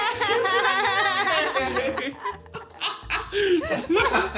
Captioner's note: all laugh